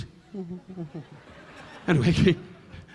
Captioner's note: Don chuckling; Don humming